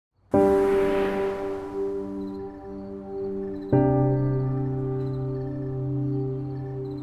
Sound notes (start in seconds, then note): 0.3 soft music; 2.3 crickets chirping